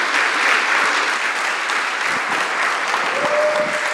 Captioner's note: audience applauding